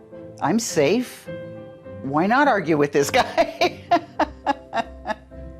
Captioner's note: laughs